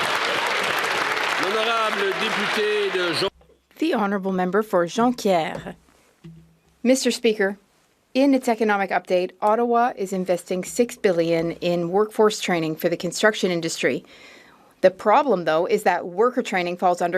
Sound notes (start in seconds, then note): 4.1 some Applause